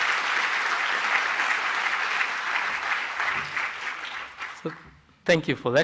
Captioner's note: applause